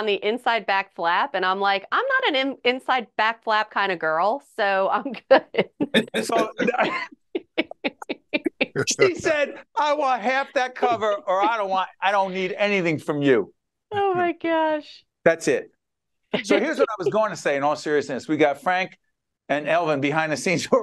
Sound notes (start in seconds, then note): 5.0 laughing